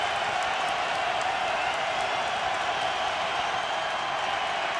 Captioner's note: cheering